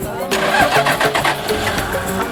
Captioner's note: car starts